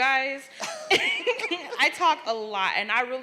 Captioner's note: laughs